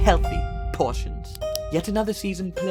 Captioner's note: pen clicks